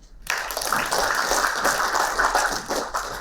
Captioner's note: applauding